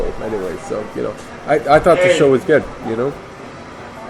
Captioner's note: drunk rambling